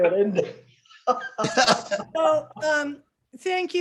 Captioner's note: laughter